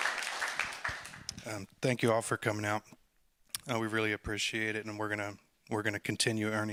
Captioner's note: applause